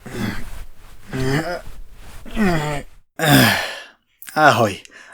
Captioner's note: struggled grunting